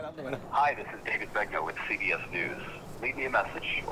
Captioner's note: voicemail